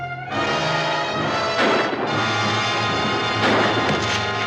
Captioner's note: guns firing; rock thuds